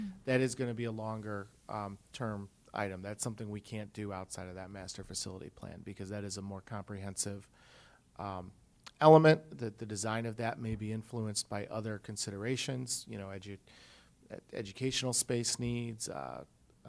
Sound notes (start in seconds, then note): none